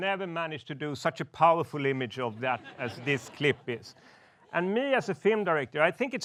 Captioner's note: laughs